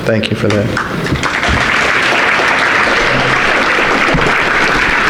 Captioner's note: audience applauding